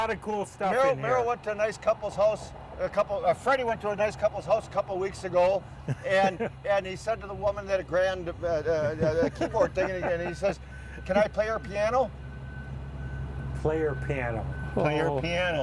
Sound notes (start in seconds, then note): 9.3 stutters